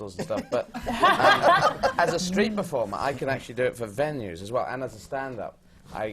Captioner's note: laughter